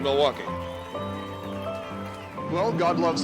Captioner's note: cheering